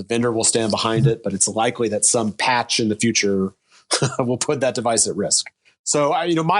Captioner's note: chuckling